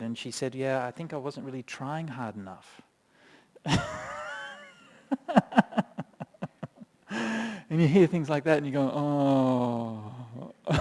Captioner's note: chuckles